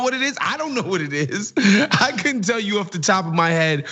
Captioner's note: laugh